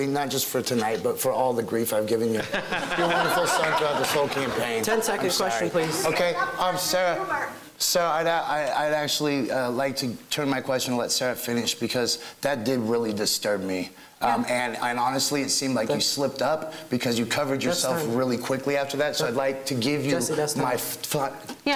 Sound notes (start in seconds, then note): 2.4 laughing